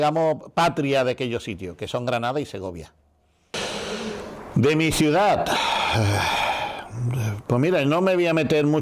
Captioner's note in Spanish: suspiro